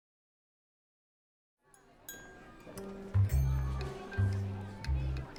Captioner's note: college chatter and bustle